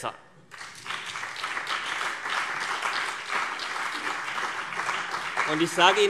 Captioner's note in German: Beifall CDU und BÜNDNIS 90/DIE GRÜNEN